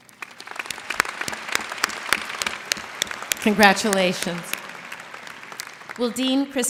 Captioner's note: applause